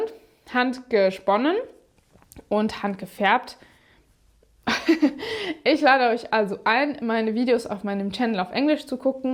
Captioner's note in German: gelächter